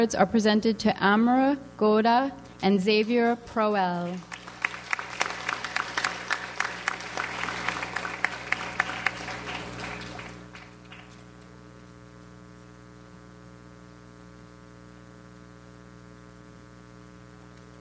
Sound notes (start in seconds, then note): 3.5 audience applauds